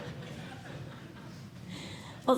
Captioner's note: laughter